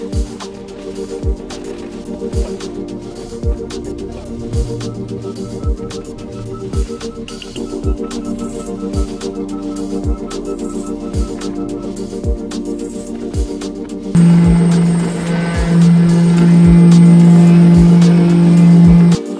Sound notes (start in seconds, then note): 0.1 chill ambient music; 13.5 mechanical whirring